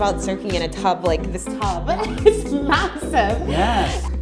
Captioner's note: laughs